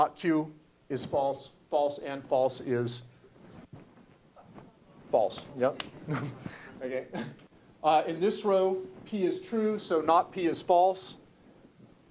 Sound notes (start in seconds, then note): 6.0 laugh